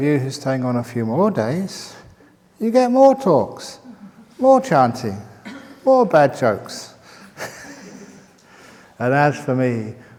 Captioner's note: chuckle